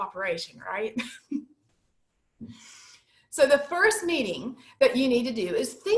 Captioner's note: laughter